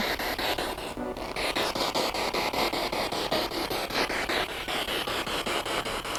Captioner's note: sound of the Spirit Box in the background